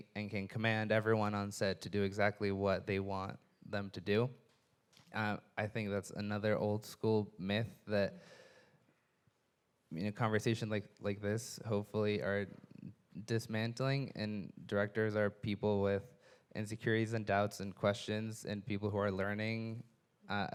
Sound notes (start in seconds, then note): none